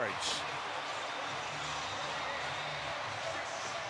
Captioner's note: pa announcement